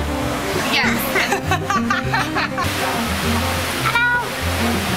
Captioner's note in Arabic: يضحك